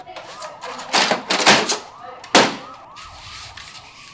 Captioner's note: police sirens blare